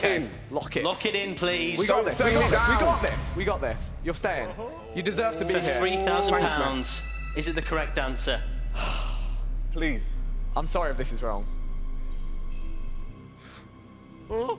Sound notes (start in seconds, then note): 4.4 groaning; 8.7 exhales loudly; 11.0 intense music building; 14.3 whimpering